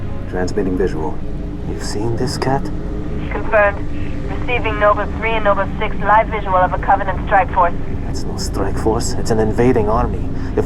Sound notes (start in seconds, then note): 3.4 radio